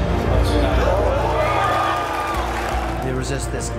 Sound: crowd cheers

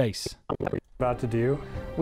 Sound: distortion

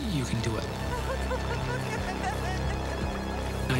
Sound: crying

